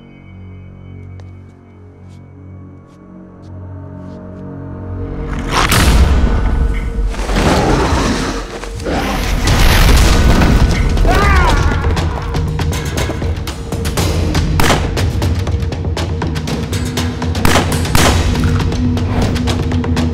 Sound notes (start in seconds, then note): 1.1 dramatic music; 11.1 manager screams; 14.8 gun fires